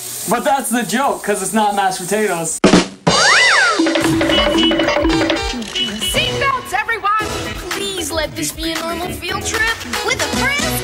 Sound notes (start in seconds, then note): 3.1 stock cartoon sound effects; 3.7 ba-dum-tiss